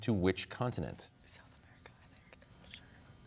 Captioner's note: whispers